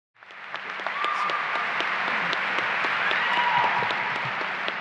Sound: applause and cheering

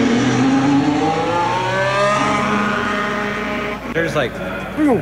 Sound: engine revs

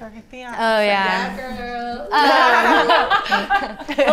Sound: chuckling

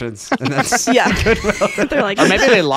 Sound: laughing

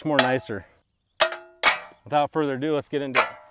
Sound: hammer clanging; hammer clanging

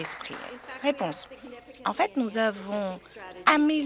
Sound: applause

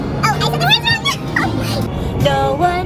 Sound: laughs

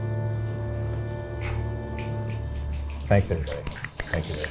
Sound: crew members clapping

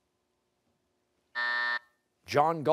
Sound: buzzer

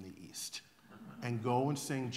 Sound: laughter

